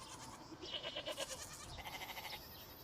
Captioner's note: farm animals sounds